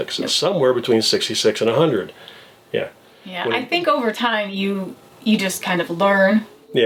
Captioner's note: none